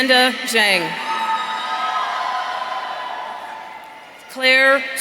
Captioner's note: audience cheering